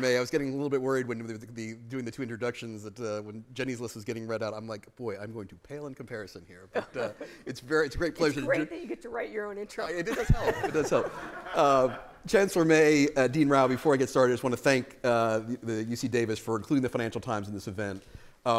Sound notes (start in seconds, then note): 10.0 laughter